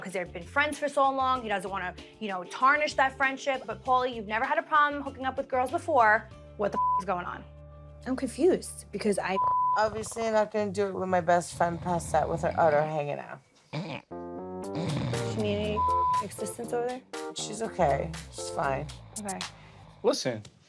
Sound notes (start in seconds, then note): 6.7 beep; 14.7 snoring